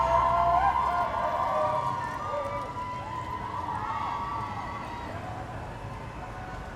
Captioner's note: people shouting